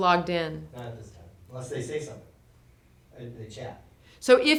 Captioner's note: voiceover